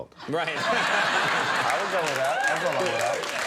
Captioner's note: crown laughing